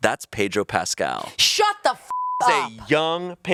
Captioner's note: beep